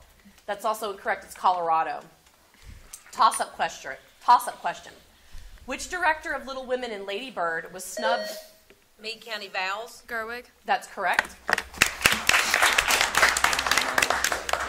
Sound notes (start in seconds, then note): 7.9 buzzer sounding; 11.6 audience applauding